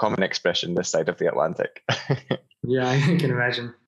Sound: laughs

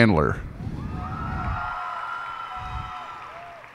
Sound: cheers and applause

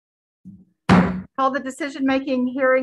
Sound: gavel banging

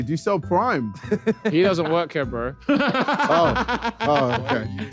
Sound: laughing

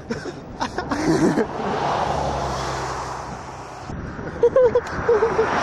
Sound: laughter

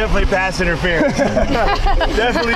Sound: laughing

